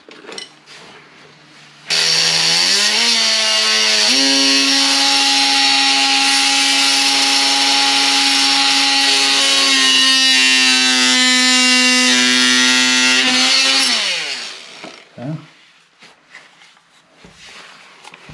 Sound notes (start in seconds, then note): 1.9 oscillating tool sounds